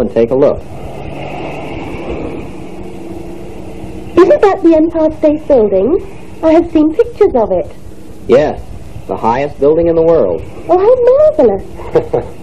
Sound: car running. Fade; excited; laughs

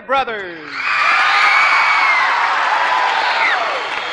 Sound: cheers and applause

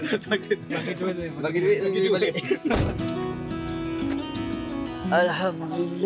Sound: laugh

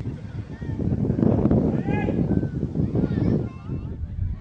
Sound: violent Wind

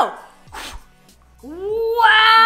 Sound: blows

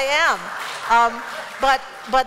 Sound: laughter

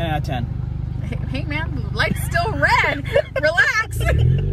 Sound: laughs; engine revving

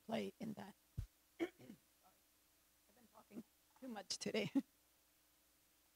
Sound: clears throat

